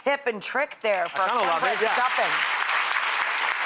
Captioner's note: audience applause